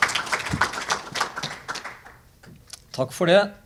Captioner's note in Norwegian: applaus